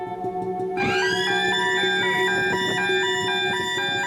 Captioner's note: sirens wailing